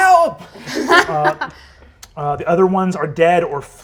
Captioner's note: laughter